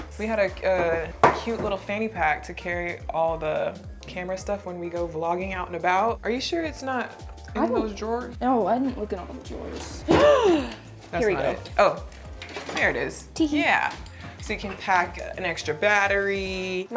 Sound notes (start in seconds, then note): 10.3 gasping